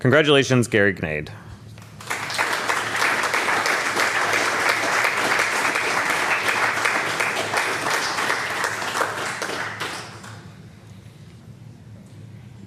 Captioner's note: applause